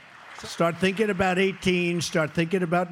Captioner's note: applause